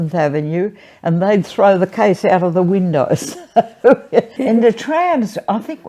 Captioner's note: laughs